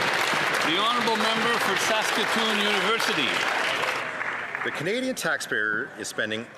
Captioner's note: some Applause